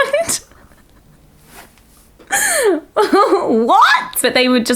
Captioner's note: laughing